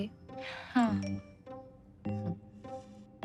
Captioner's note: message tone